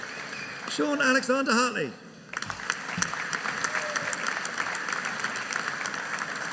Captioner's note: audience applauding